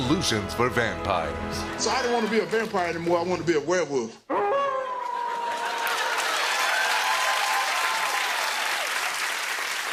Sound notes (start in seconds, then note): 4.3 wolf howls; 6.3 cheers and applause